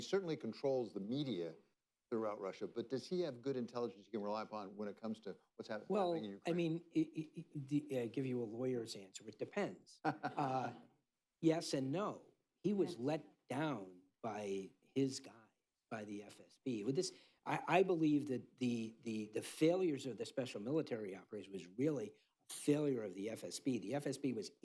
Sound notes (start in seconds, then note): 10.0 laughter